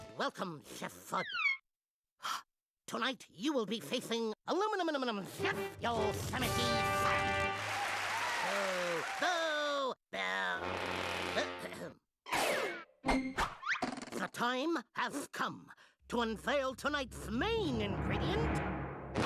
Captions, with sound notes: WELCOME, CHEF FUDD. TONIGHT, YOU WILL BE FACING ALUMINUM-NUM CHEF, YOSEMITE SAM. [crowd cheering] [booing] [clearing throat] THE TIME HAS COME TO UNVEIL TONIGHT'S MAIN INGREDIENT.